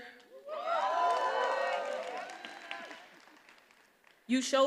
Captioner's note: attendees applauding and cheering